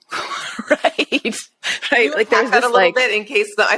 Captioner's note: laughing